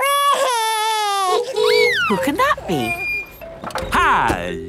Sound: wailing; honking

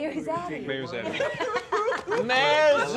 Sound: laughter

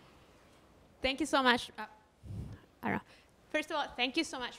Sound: voiceover

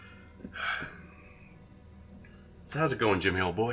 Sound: Evil Jimmy sighing

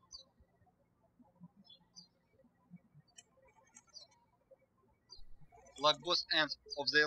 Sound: birds chirping

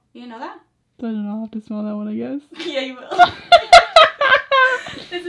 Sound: both laugh

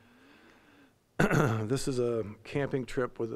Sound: clearing throat

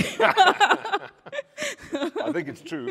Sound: laughs

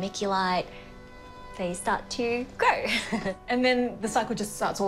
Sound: laughs

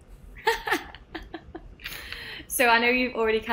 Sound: laughs

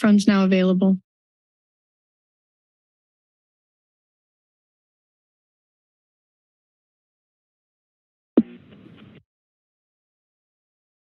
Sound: silence

